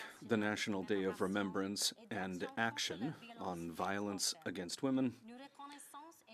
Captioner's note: speaking French